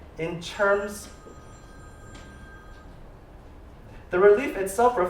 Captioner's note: telephone ringing